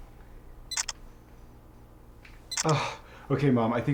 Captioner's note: camera shutter clicking